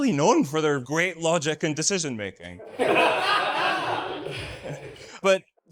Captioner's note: audience laughs